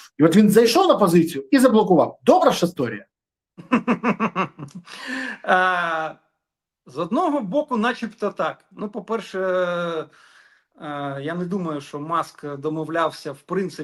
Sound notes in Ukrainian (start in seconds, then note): 3.6 сміх